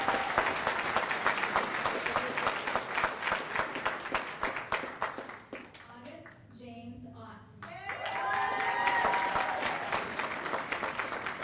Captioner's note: cheers and applause